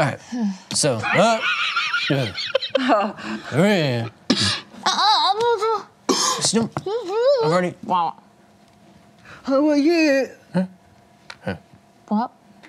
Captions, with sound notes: (grunts negatively) I've already ...